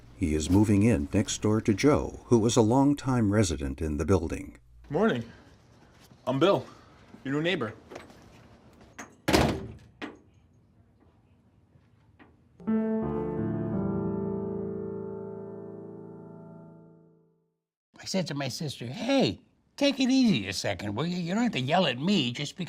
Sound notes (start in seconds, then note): 9.2 door slams; 12.6 gentle piano music